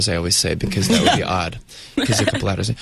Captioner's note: Uzo and interviewer laugh